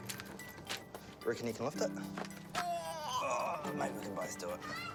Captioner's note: both groan